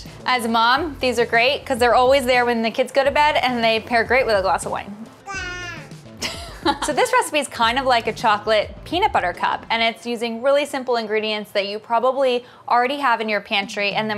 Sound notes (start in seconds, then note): 5.2 baby cooing; 6.2 laughing